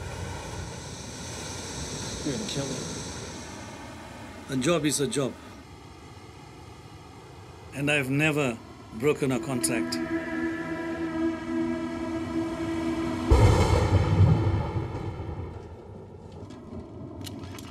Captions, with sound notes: - You're gonna kill me? - A job is a job. And I have never broken a contract. (ominous music) (thunder crashing)